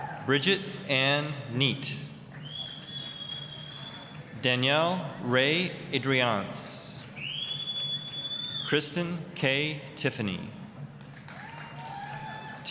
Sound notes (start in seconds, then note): 0.0 applause, cheering; 2.4 applause; 7.1 whistling; 10.9 applause, cheering